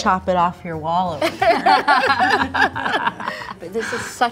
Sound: both laughing

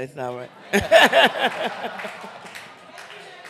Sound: laughter

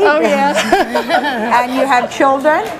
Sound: guests laugh

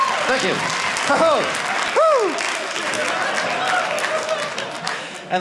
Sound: audience cheering

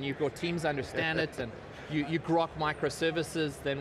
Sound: laughter

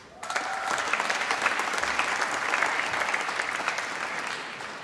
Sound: applause

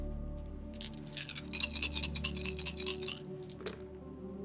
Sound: dice clacking

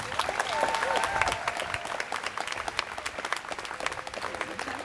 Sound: students cheering

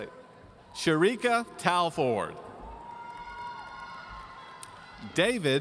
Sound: audience cheering

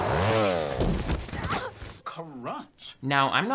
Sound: body thuds; Bella moans

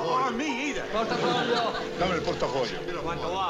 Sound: speaking italian

